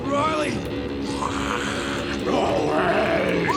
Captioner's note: Riley growling